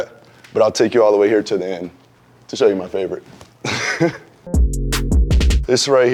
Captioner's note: chuckles